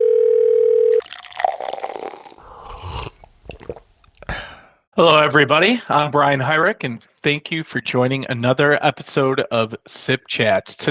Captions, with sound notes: (phone ringing) (coffee pouring) (person slurping) (person swallowing) (person exhaling) - Hello, everybody, I'm Brian Hyrek, and thank you for joining another episode of "SIP Chats."